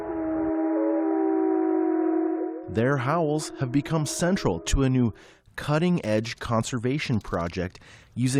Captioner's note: voice-over